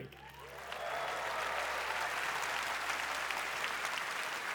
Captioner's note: applause